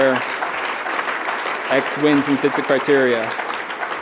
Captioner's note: applause